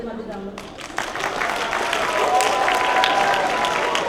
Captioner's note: applause